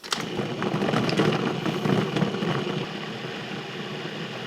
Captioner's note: food processor whirring